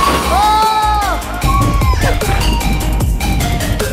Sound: yell

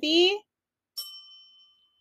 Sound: bell dings

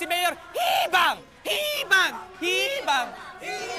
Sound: crowd

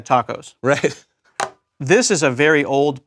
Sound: laugh

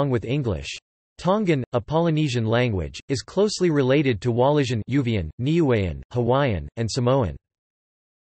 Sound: Uvean

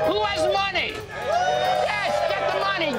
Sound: patrons cheering

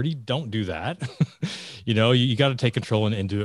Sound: laughing

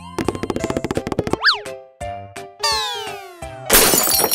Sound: fast tapping; crashes

